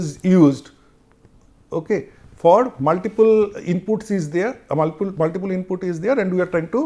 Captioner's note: conversation